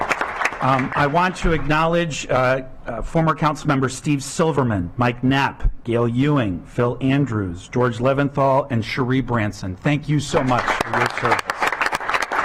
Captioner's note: clapping